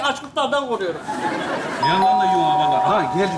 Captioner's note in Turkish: Zil çalar